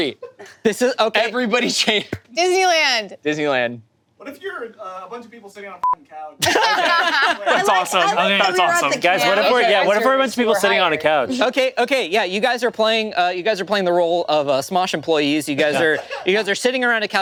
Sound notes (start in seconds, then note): 6.2 beep; 6.4 group laughing